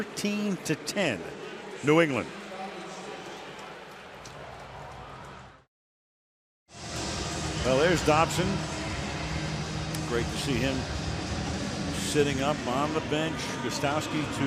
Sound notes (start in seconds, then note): 2.9 pa announcement